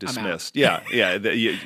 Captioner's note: chuckle